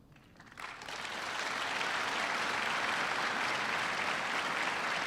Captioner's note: audience applauds